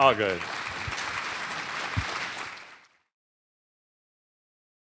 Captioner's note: applause